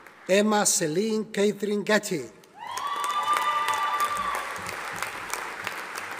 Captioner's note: audience applauding